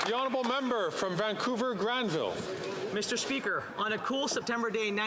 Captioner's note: some Applause